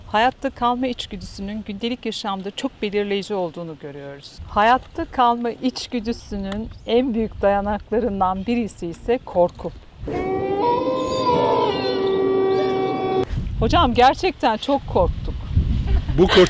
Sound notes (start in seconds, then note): 10.1 wolf howl